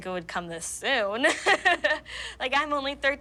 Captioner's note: laughing